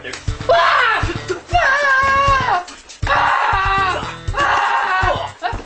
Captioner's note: screams